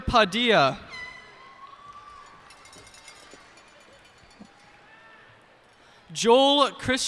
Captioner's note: cheers and applause